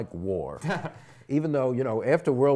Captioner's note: laughs